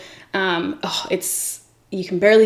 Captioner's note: sighs